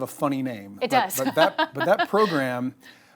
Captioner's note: laughs